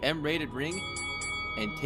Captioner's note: ding Ding Ding